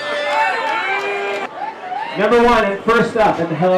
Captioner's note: audience cheering